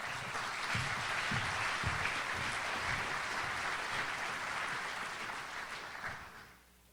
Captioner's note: audience applauds